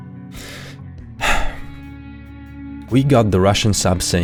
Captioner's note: sigh